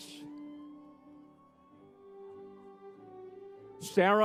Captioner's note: crowd cheers